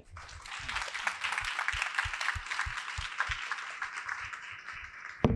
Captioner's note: applause